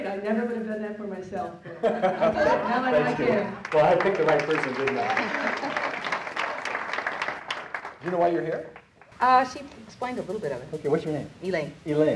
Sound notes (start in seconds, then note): 5.0 audience clapping